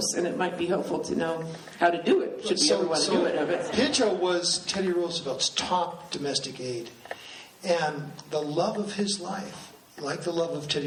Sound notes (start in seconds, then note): 2.9 laughing